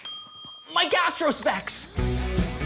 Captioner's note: bell rings